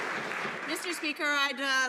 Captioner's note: some Applause